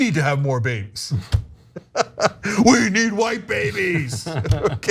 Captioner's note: laugh